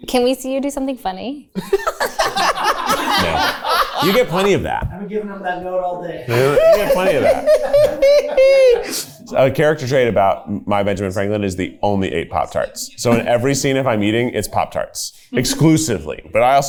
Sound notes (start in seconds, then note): 1.6 everyone laughs; 6.3 laughs